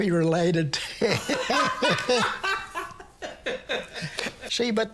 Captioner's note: both laugh; laughs